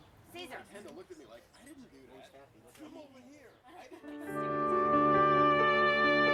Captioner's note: background conversations